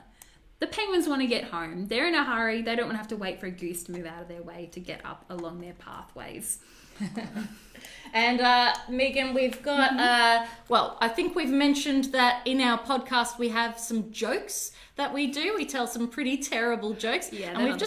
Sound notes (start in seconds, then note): 7.0 both laugh